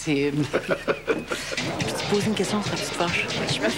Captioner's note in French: Rire